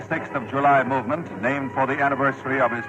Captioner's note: archival news audio